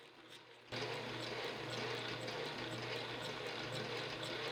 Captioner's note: machine whirring